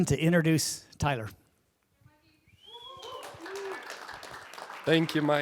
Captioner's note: applause